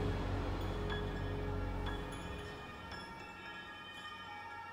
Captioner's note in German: Krankenwagensirene im Hintergrund